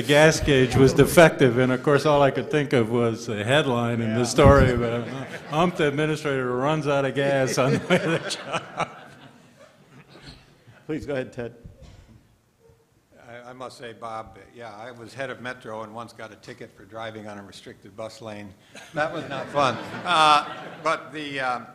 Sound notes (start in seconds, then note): 10.1 laughter